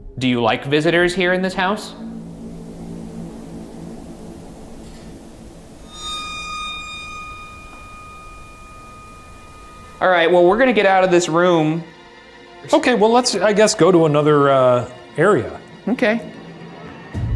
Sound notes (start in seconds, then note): 4.9 tapping; 6.6 suspenseful music